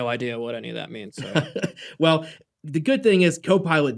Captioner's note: laughter